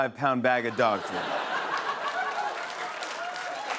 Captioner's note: laughter